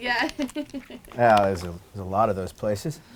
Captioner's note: laughs